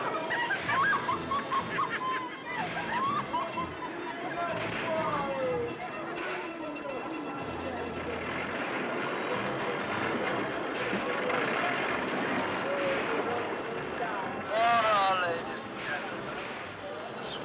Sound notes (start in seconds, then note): 0.0 women laughing; 4.3 crowd sounds; 4.3 jaunty carnival music